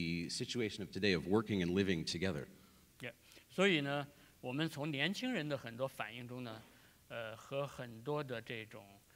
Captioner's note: speaking in Chinese